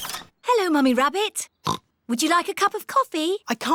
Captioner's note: oinks